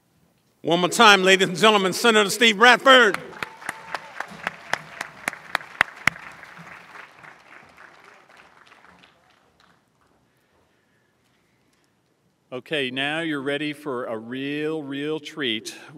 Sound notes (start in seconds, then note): 2.8 applause